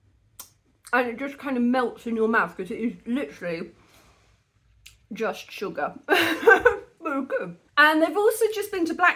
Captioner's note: laughing